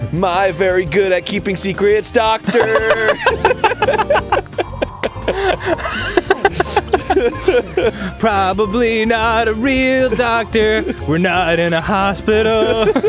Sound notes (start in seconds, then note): 0.4 singing; 2.4 both laughing; 2.4 laughing; 8.5 singing; 12.0 laughing; 12.4 both laughing